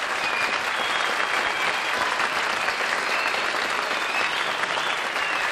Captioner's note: cheers, applause